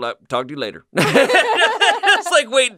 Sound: laugh

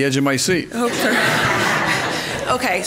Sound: laughing

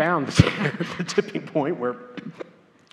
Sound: laugh

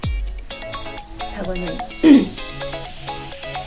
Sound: clears throat again

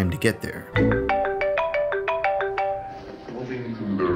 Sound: phone rings

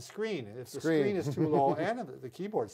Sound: laughs

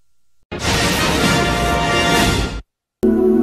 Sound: electricity zapping as rousing fanfare plays; snippeted music playing

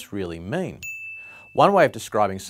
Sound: bell tinkles

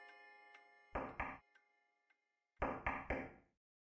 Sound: knock on door

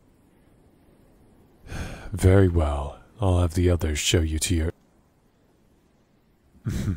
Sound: sighs; chuckle

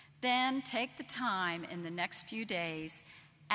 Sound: none

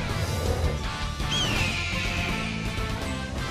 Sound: screeching

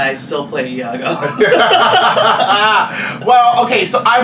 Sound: laughs

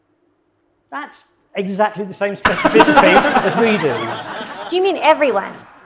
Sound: laughing

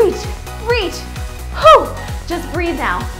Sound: gasps

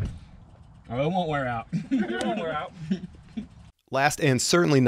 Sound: laughter

